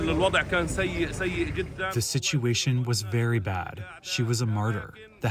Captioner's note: through translator